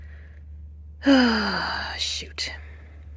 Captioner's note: big heavy sigh